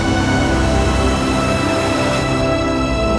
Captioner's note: whooshing